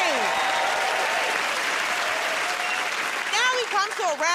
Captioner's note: cheers and applause